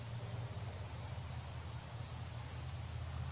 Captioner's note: water falling